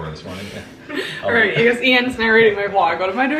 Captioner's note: laughing